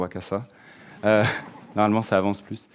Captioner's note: audience laughing